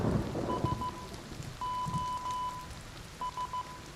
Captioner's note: thunder rumbles; beeping